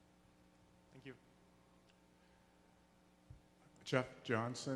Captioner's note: voiceover